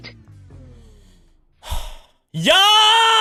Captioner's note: exhale